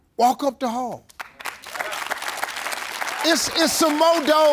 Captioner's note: audience clapping